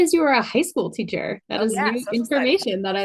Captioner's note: speaks faintly